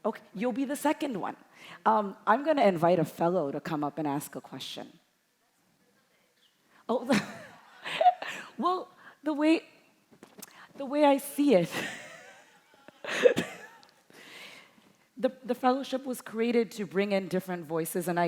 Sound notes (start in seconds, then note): 7.1 chuckles; 7.6 audience chuckling; 11.8 chuckling